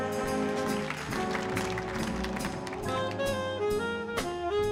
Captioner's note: audience applauding